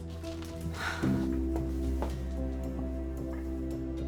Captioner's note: Hope sighing